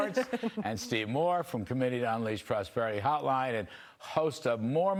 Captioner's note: laughter